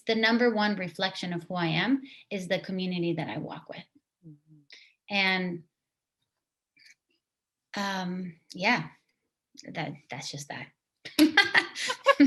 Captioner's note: laughter